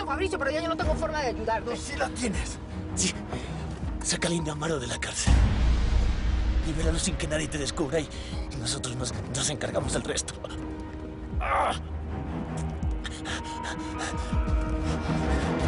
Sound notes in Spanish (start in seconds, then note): 11.3 Quejidos